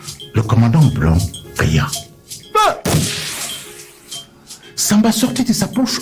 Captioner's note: gunshot sound